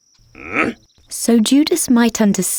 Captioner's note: soldier grunting